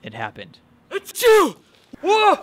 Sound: George sneezes

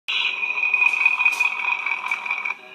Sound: engine revving

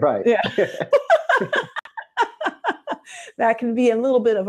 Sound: laughter

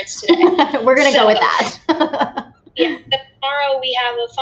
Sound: laughs

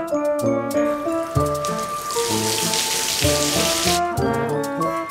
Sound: water running

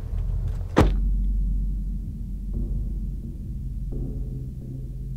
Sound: door slams

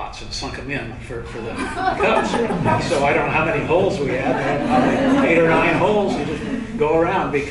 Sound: laughter

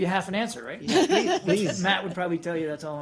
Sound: laughter

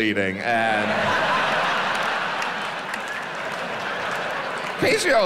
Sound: audience laughs

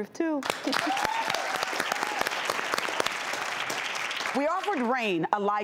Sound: applause and cheering

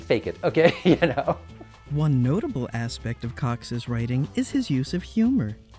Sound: laughs

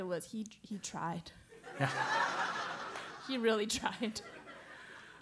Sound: laugh

